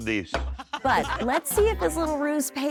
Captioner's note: laughter